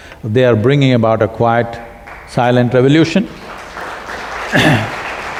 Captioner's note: applause